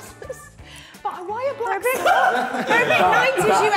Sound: Sidemen laughing

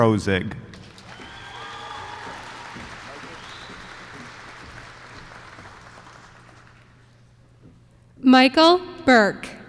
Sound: applause

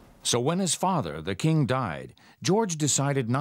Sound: voiceover

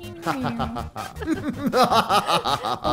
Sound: DJ laughing mischievously; DJ laughing

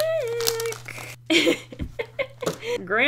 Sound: laughs

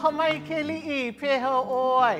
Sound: in Hawaiian language

